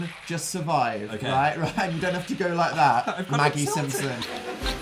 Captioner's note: laughs